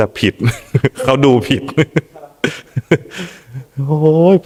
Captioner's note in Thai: เสียงหัวเราะ